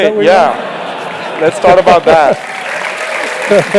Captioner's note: laugh; applause; laugh